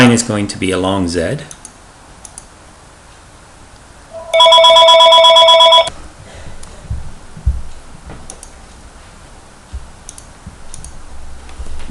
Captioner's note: rotten phone rinnging in the background